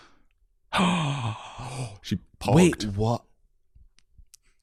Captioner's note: both gasp